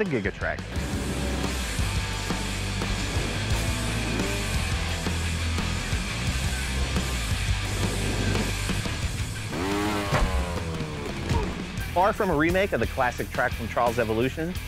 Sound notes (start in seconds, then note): 0.0 rock music; 9.4 engine revving; 10.1 thud